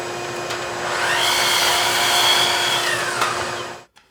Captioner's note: saw whirring